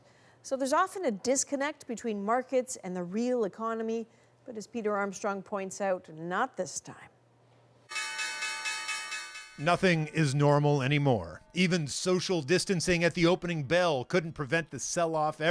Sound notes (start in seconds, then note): 10.9 bell ringing